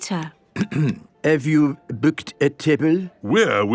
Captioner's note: clears throat